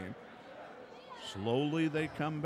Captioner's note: crowd chattering